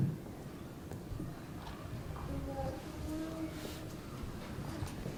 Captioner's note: audience murmuring